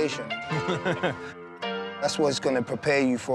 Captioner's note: laughs